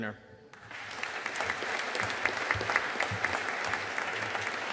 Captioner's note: audience applauding